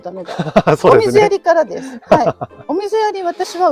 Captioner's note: laughs